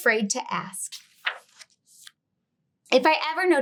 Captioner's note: page rustling